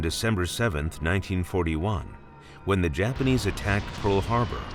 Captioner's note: bombing sounds